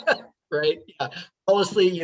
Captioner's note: laughing